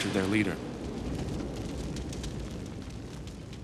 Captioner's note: fires crackling